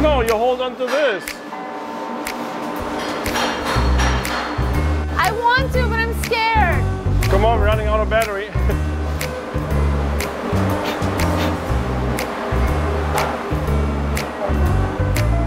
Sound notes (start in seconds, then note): 1.3 relaxed jazz music; 2.6 metal clanging; 8.6 relaxed jazz music; 10.9 blowing on camera; 11.7 relaxed jazz music